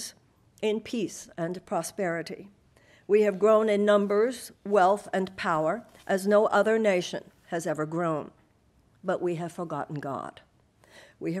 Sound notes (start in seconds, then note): none